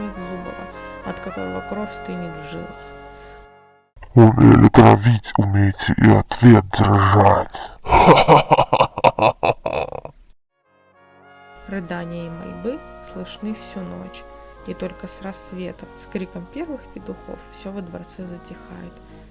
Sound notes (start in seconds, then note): 7.8 sinister laughter